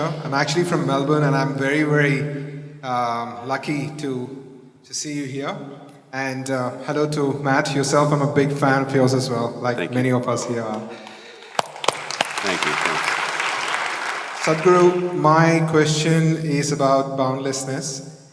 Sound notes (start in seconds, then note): 10.7 applause